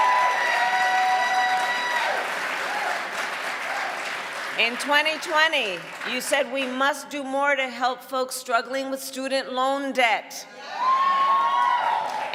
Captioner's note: cheering and applause